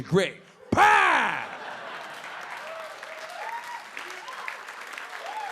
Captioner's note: audience laughing; audience clapping and cheering